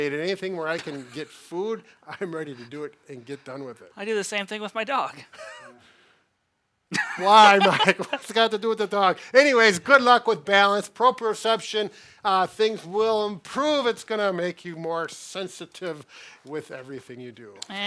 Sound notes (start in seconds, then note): 6.9 chuckles; 6.9 laughing